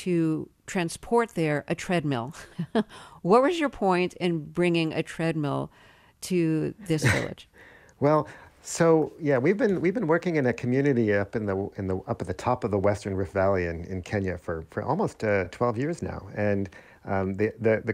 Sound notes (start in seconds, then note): 2.4 laughter; 7.0 laughter